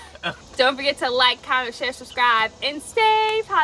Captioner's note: laughing